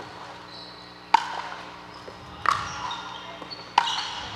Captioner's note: ball bouncing